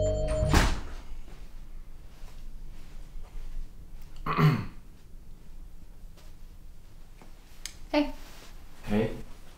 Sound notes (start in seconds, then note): 1.2 man clears throat